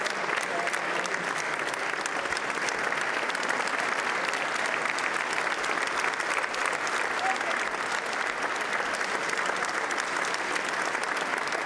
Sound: applause

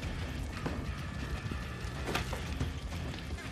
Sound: footsteps approaching

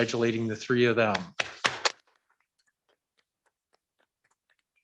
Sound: clapping

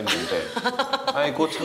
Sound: laughing

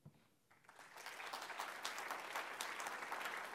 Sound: applause

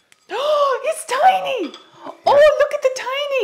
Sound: gasps

